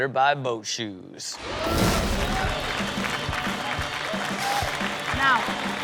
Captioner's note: audience cheers; upbeat rock music